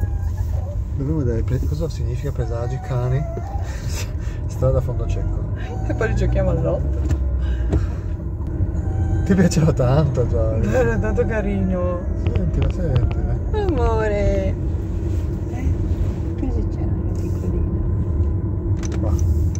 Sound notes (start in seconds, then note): 13.4 Joice cries